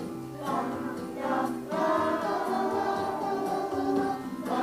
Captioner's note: children vocalizing